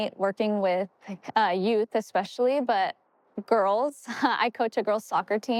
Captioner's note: chuckles